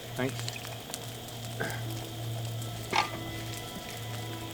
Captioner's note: fire crackling